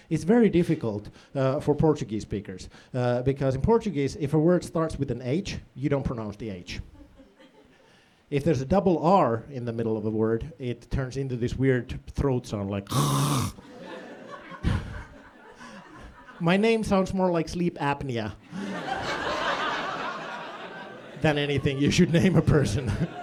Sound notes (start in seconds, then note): 12.8 throat sound